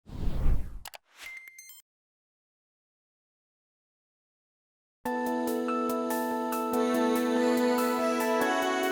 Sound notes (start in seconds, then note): 0.0 logo whooshing; 0.9 chiming music; 5.1 gentle music